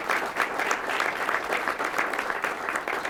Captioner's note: applause